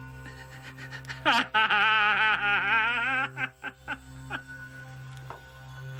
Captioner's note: Roger laughing over menacing electronic music